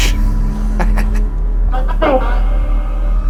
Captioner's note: laughing